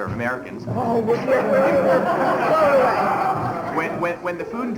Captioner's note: laughter